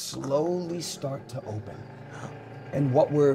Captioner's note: gates creak